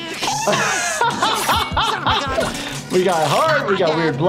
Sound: laughing

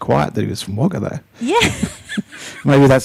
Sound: laughing

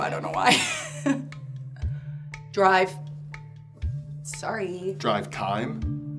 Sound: chuckling

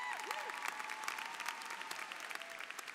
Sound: applause

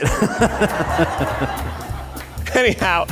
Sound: all laughing

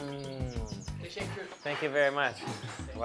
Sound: speaks in foreign language

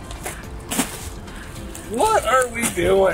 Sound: plastic wrapper rustling

